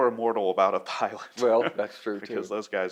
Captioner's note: laughs